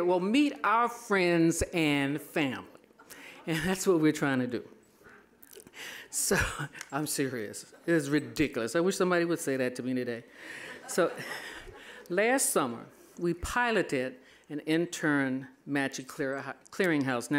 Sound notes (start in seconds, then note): 6.3 laughing; 10.4 all laughing